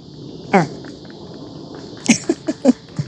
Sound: chuckles

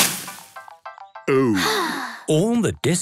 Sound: Peppa sighing

